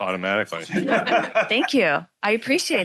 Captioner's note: audience laughing